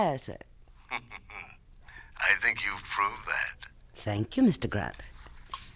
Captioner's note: chuckles